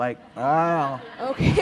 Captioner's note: laughter